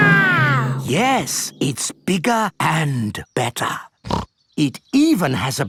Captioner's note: snorts